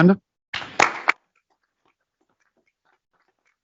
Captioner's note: applause